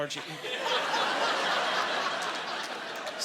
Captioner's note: laughing